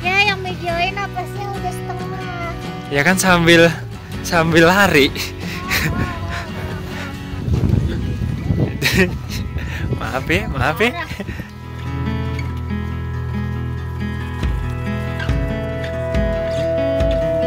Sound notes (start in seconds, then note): 5.6 evil laugh